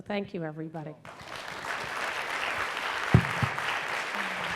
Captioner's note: applause